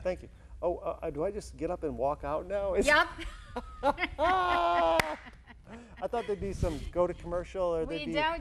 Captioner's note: haha